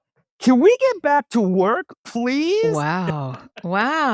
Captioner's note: laughs